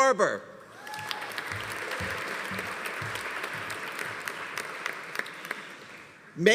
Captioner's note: audience cheering; audience applauding